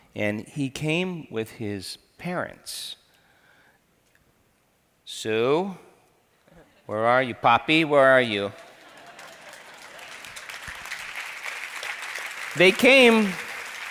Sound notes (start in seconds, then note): 8.5 crowd laughs; 11.0 crowd applauds